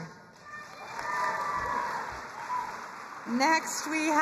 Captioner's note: crowd cheering and applauding